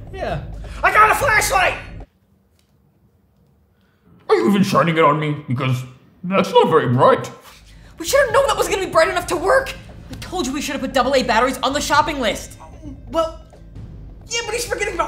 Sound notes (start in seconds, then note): none